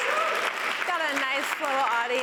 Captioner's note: cheers and applause